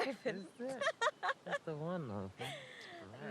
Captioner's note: both laughing